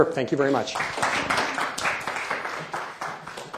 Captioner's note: applause